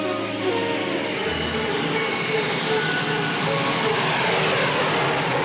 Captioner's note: train rumbling